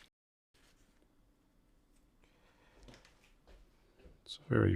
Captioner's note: silence